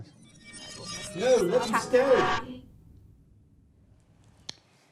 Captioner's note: echo-like time travelling sound effects